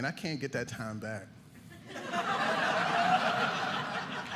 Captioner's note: audience laughing